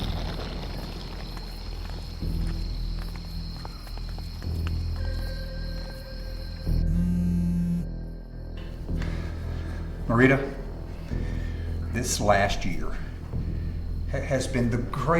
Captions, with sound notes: (dramatic music) (insects chirping) (cellphone vibrating) - Marita, this last year, has been the greatest year of my.